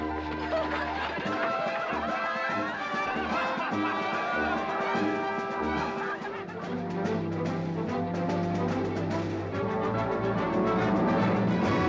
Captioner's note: amused crowd noises